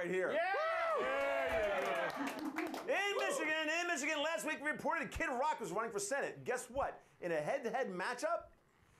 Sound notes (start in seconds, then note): 0.4 audience cheering